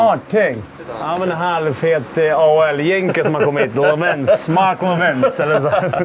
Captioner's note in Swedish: skratt